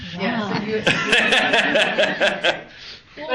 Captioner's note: laughs